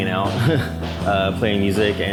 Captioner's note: laughs